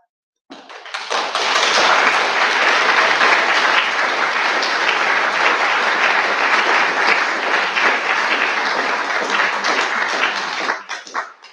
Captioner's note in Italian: Applauso